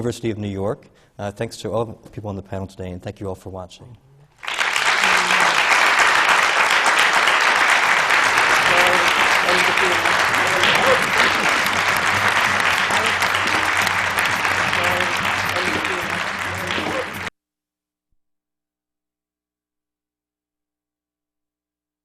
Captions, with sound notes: And it was so great, because it wasn’t as if I had been away for four years, six years, whatever. (LAUGHTER FROM THE PANEL) And that’s what I’m hoping to have in my theatre, you know? They have a really great kitchen in their rehearsal room! And that’s key! And you really do feel like you’re walking into something that you can walk into. And most places, for artists, aren’t like that.